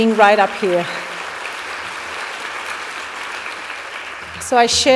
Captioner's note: applause